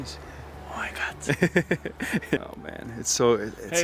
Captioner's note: laughs